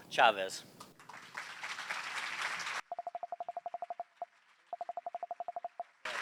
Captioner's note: applause